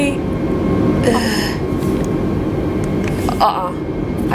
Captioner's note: sighs